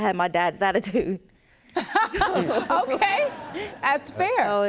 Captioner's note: laughs